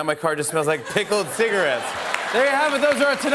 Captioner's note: laughter and applause